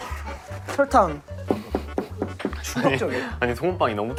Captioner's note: knock knock knock